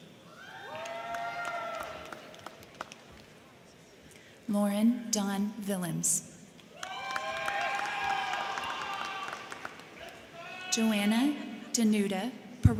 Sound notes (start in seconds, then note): 0.1 crowd cheering; 0.7 crowd clapping; 6.6 crowd clapping; 6.7 crowd cheering